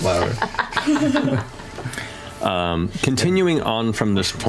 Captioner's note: laughter